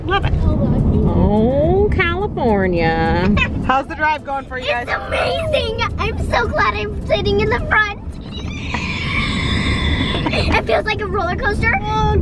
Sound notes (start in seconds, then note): 8.2 wheezes